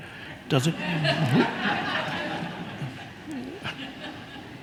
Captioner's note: audience laughs